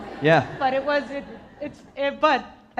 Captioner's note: audience laughing